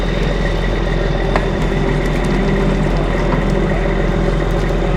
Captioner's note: engine rumbling